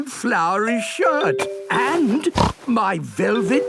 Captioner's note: snorts